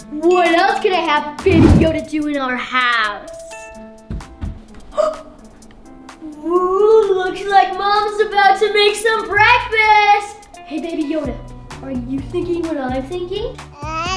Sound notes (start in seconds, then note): 5.0 boy gasps